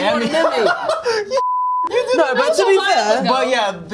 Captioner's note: laughs